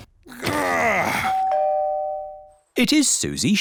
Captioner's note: groans; doorbell rings